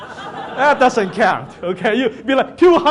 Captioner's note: audience laughs